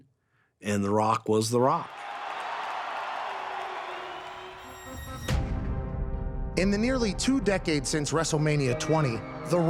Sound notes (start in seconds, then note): 1.8 crowd cheering; 4.6 tense music